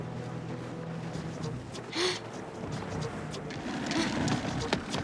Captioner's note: gasps